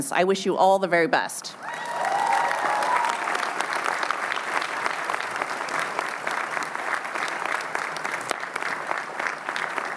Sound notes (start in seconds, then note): 1.6 cheering